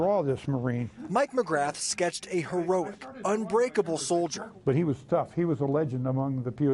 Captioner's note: laughs